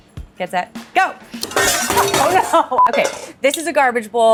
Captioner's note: pans clanging